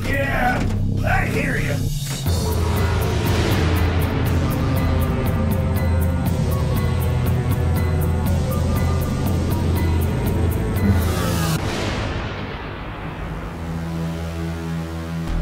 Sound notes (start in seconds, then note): 2.9 spacecraft whooshes; 5.9 apprehensive synth music; 11.3 portal buzzes